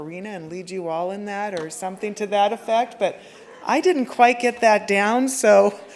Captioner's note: laughter